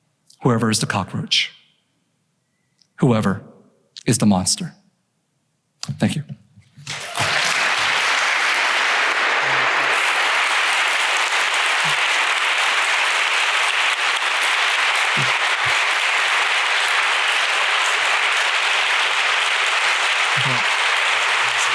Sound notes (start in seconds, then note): 6.5 applause